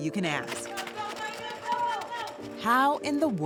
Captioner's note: Multitud anima